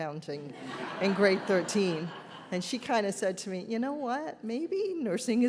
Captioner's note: audience laughs